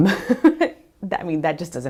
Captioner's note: laughs